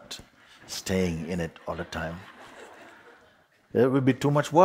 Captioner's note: soft laughter